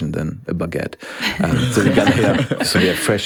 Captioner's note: group laughs